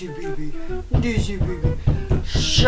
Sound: knocking sounds

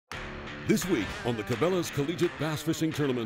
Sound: voiceover

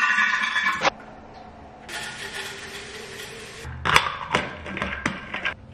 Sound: tap opened, bottle filled with water; bottle tap closed

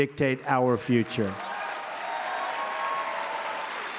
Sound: applause

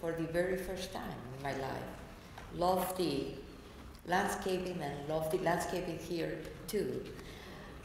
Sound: none

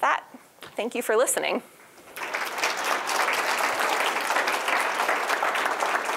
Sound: applause

